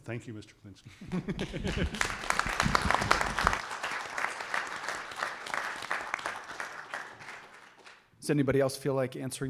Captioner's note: applause